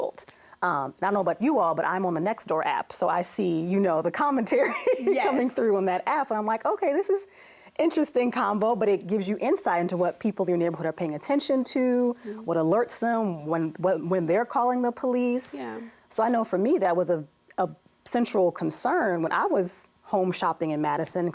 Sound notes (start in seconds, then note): 4.5 laughs